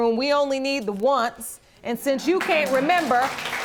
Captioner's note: audience clapping